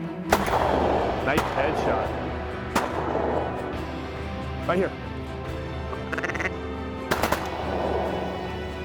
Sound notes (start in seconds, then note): 0.3 gun shots; 5.8 duck calls; 7.1 gun shots